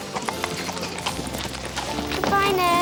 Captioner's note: hooves clop